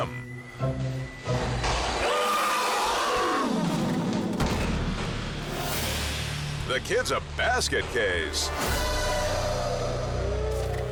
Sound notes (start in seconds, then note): 0.1 suspenseful music; 2.1 screams; 3.9 friend thuds